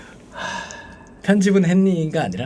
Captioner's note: sigh